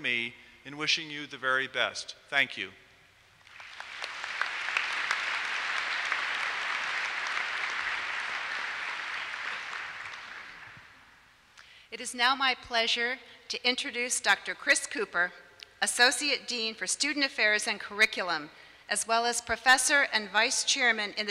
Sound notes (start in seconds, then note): 3.4 applause